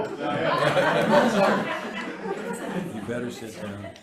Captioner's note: members laughing